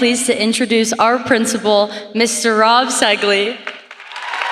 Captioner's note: applause